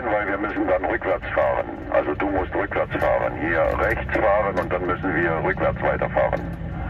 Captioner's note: German talking